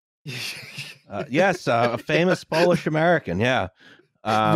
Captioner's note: laughing